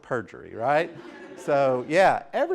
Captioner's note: laughter